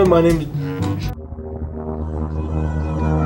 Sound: droning tone

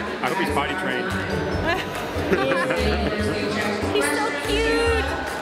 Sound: laughing

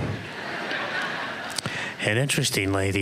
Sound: laughter

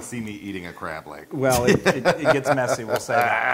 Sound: laugh

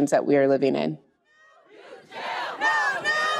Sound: crowd

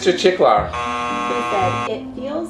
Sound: buzzer buzzing

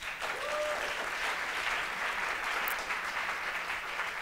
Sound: applause

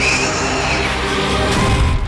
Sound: shrieks

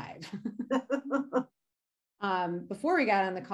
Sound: laughing

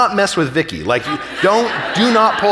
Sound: audience laughing

